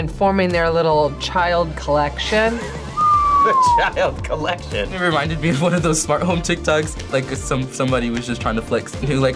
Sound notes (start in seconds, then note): 2.9 whistles; 4.6 laughs